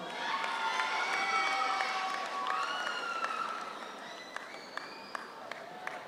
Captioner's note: audience cheers; audience applauds